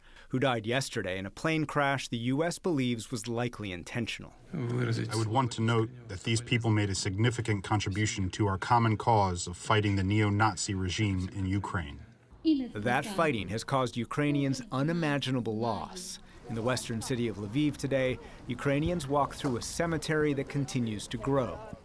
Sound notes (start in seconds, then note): 5.3 through translator